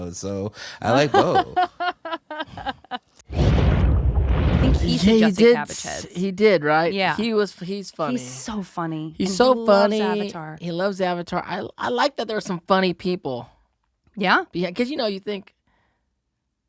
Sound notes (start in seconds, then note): 1.0 laughing